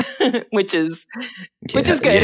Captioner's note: laughs